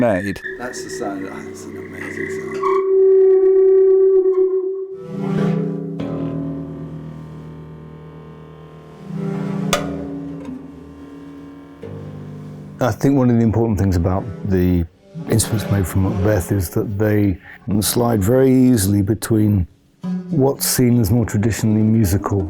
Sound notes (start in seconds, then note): 2.5 feedback-like drone; 4.9 twanging, hum